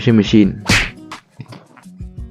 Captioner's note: slap sound